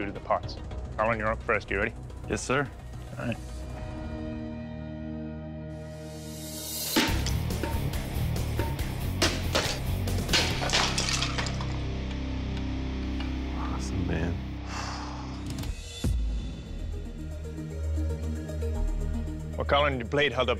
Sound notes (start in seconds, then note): 3.0 dramatic music plays; 6.8 dramatic rock music plays; 14.6 sighs